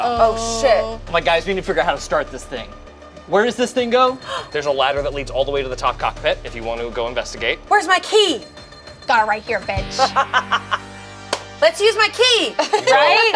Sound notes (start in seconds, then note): 10.3 laughs